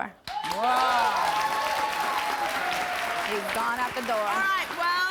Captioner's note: audience applauds